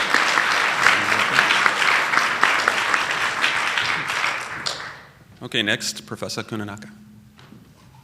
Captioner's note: applause